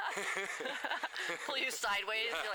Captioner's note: laughter